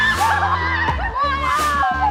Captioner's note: team squealing